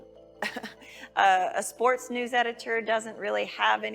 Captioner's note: laughing